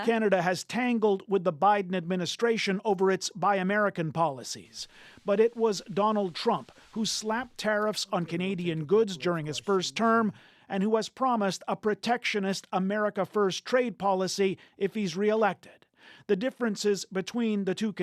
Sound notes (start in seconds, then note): 5.2 speaking French